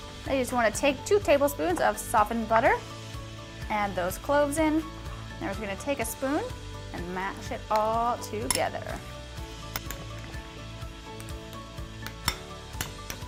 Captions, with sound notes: Now, you just wanna take two tablespoons of softened butter, add those cloves in. Now we're just gonna take a spoon, and mash it all together. (clanking)